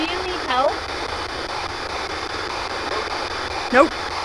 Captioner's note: electronic static hissing